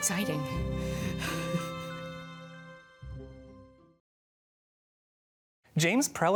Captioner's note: laughs, bright music